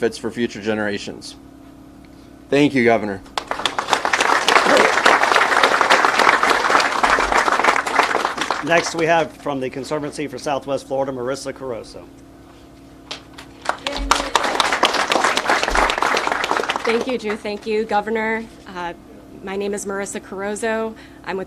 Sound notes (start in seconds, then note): 3.3 people applauding; 13.1 people applauding